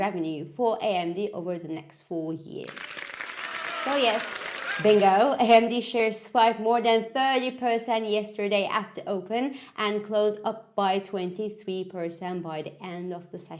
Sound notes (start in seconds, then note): 2.6 applause